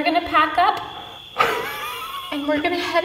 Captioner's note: laughs